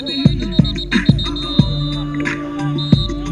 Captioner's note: whistle blowing